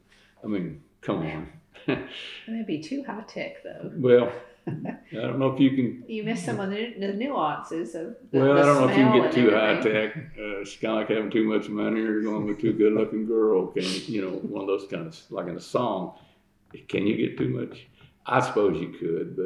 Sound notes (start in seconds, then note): 4.6 laughter